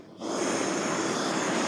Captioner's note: hiss